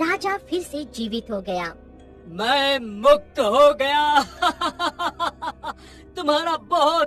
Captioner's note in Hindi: हंसी